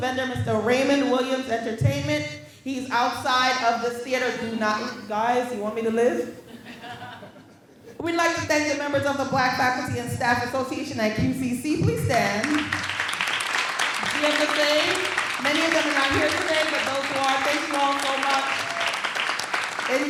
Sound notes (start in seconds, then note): 6.3 graduates laughing; 12.8 graduates applauding